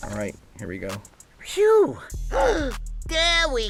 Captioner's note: In voice of Bugs Bunny